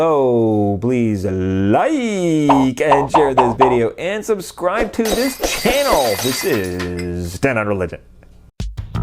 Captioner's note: popping sounds; glass breaking